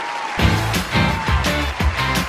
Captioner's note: crowd cheers; upbeat rock music